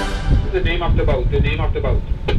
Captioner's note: voice On Radio